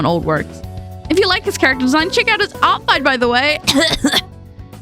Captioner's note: cough cough